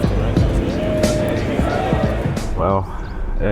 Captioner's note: crowd chattering